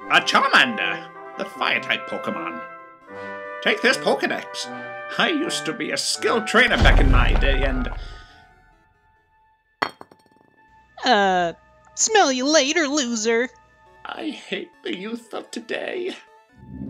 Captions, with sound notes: Er.. Charmander! The fire type Poke'mon. Take this Poke'dex. I used to be a Skilled trainer back in my day and- [loud crashing] Err... Smell Ya Later looser! I hate the youth of today...